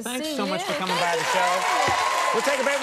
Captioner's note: audience cheering and applauding